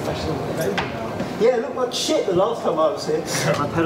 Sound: laughter

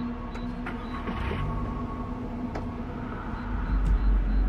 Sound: engine rumbling

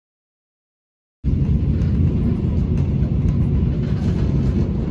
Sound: train noises

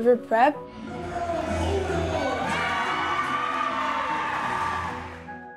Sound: group cheering

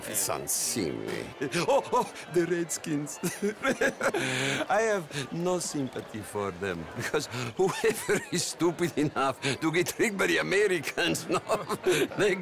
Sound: laughs

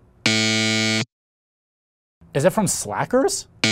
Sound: buzzer buzzes

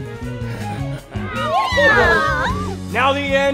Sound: monster noises

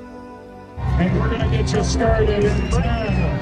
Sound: crowd cheering

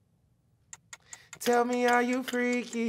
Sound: timer ticking

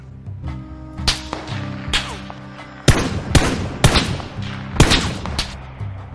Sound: gunfire

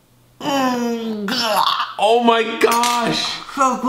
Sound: grunting

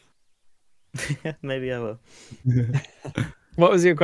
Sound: laughs

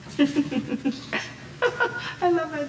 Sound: laughing

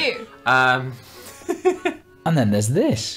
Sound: laughs daintily

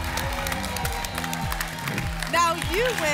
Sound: applause and cheering

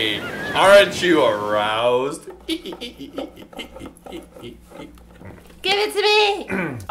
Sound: squeaky sounds

